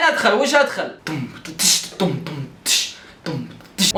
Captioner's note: vocalizes drum beat